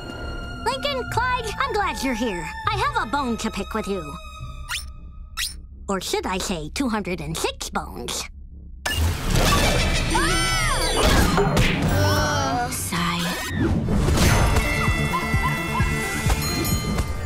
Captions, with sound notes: Lincoln, Clyde, I'm glad you're here. I have a bone to pick with you. Or should I say 206 bones? [screaming] [groaning] Sigh. [music playing, screaming] [dinging]